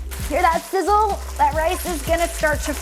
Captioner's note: oil sizzling